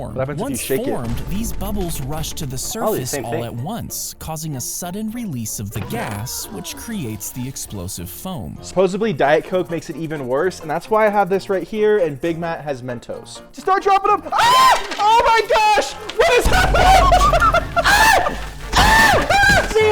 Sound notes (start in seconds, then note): 14.3 screams; 15.7 laughing; 18.7 Big Matt screaming